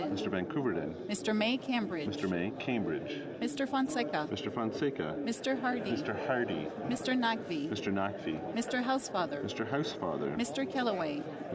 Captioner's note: calling of recorded vote